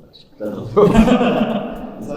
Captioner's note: laughs